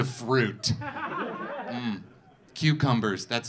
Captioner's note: audience laughing